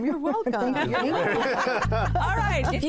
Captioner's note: laughter